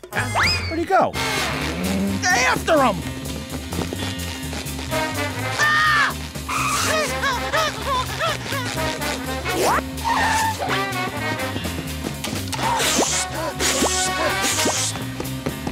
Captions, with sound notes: Where'd he go? After him! [screaming] [panting]